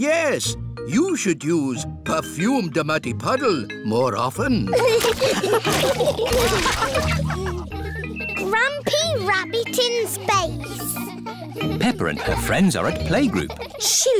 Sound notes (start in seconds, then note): 4.7 all laughing; 8.0 children giggling